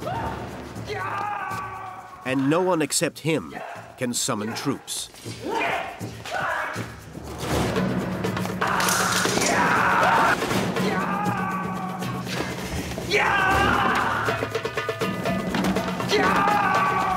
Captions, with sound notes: (assassin yelling) And no one except him can summon troops. (weapons clanking) (men grunting) (dramatic music) (assassin yelling)